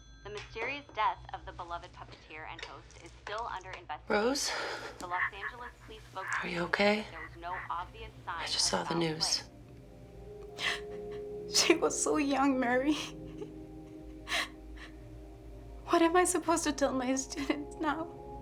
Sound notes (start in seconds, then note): 5.1 Rose whimpering